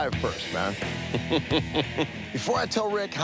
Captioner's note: laughs